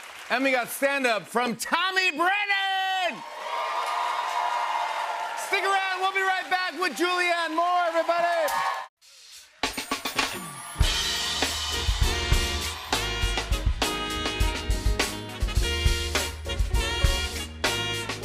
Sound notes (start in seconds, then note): 2.2 cheers and applause